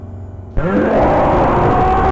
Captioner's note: monstrous roar from Sinistar because its cool